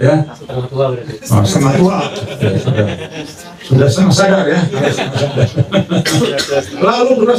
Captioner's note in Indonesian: tertawa